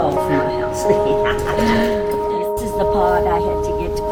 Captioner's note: laughs